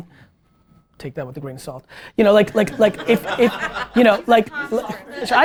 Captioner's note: group laughter